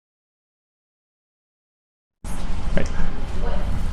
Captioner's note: talking in background